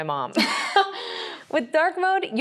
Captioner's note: both chuckle